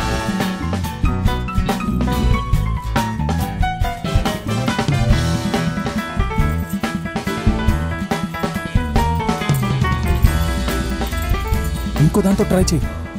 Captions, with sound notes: (Keys jangle) Try with the other key.